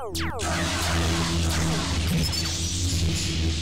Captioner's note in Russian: выстрел лазера; световой меч парирует лазер